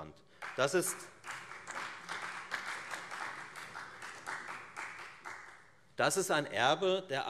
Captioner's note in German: Beifall Freie Demokraten